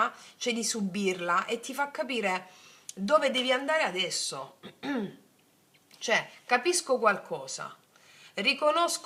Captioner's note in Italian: schiarire la voce